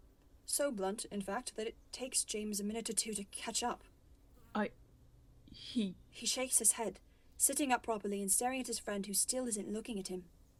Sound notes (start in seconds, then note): none